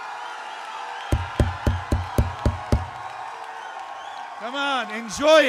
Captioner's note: screaming continues, microphone tapping